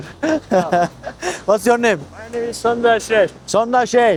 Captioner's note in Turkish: kahkaha